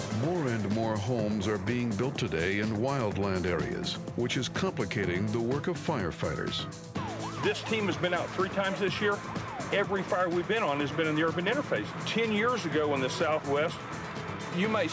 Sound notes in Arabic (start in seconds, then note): 6.7 عويل صفارات الإنذار